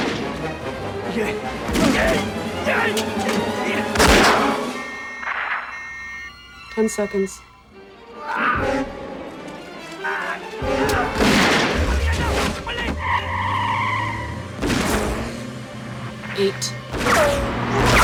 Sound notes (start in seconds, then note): 0.2 speaking Korean; 1.8 groaning; 2.5 beeping; 8.0 yells; 11.3 Shouting In Korean